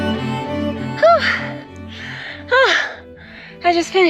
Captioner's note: labored breathing